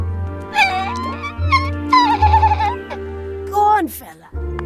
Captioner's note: Little Baa cries